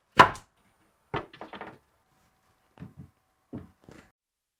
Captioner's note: boards clattering